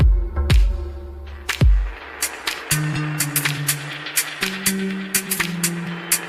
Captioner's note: applause